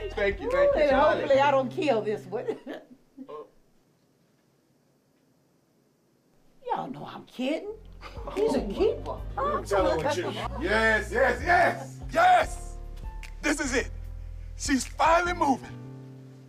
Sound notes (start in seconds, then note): 3.1 chuckling